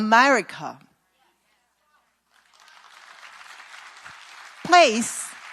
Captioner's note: claps